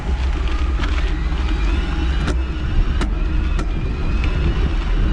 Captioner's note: bike Motor Whirring